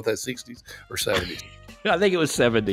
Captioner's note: laughing